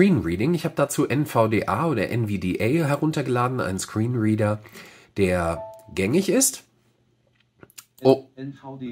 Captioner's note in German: NVDA piepst mit einem harmonischen Dreiklang